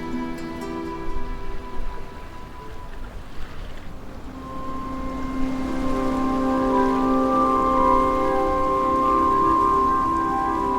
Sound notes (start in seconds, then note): 2.6 water splashing; 4.1 serene music